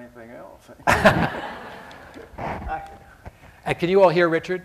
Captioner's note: laughter